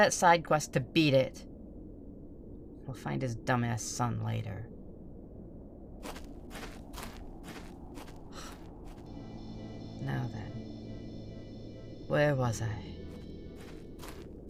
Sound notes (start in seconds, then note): 6.0 footsteps leave